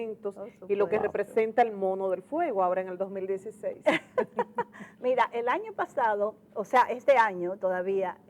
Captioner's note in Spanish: risas